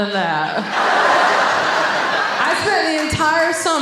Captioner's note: audience laughing